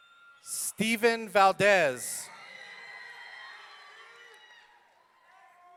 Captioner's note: audience cheering